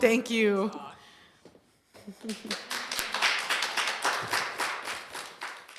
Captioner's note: applause